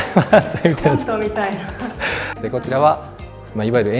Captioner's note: laughs